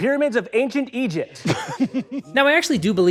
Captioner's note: giggles